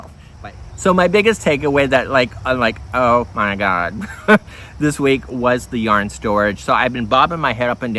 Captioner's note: chuckle